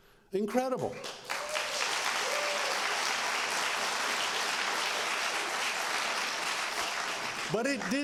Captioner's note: applause